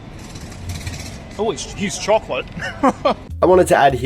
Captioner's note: laughs